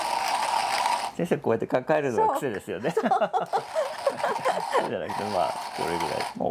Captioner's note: laughs